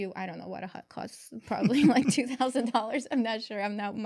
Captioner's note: laughs